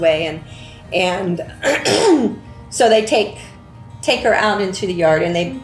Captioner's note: clears throat